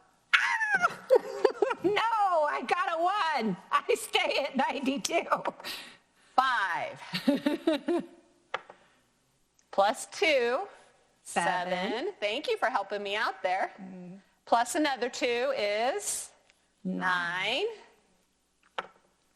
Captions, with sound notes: So, no, I got a one, I'm still at 92. - Five. (laughs) Plus two, 7 - 7 Thank you for helping me out there. Plus another 2, is, nine - Nine